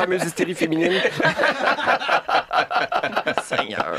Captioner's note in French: rires